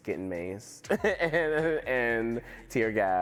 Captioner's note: laughter